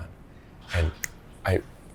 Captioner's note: snaps